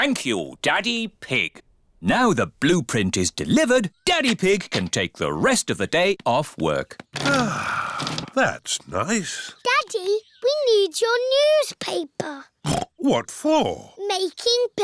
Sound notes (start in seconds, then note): 7.2 sighs; 12.6 snorts